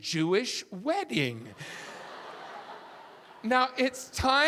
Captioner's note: audience laughing